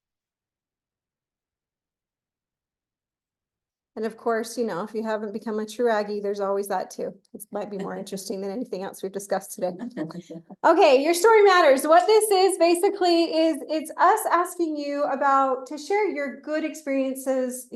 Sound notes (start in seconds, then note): 9.8 laughs